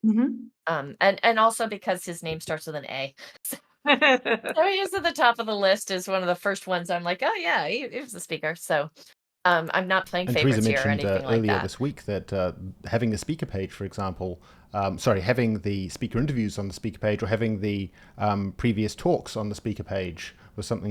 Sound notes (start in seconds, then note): 3.8 laughs